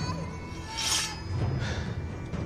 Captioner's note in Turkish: Kılıç Sesi